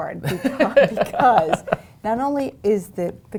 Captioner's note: laughing